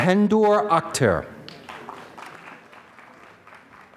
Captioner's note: applause